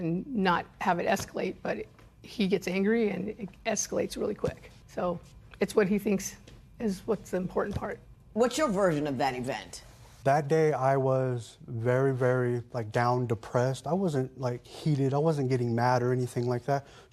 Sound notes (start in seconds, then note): none